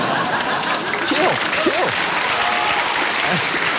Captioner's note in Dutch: applaus